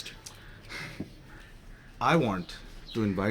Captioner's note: sighs